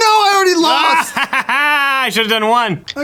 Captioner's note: laughter